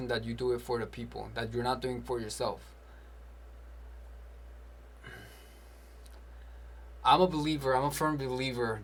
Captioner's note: sighs